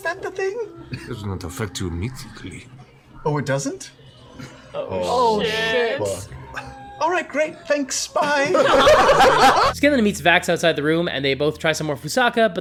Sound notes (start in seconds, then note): 8.3 laughter